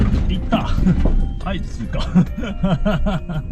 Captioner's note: laughs